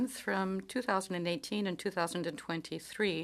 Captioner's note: speaking in French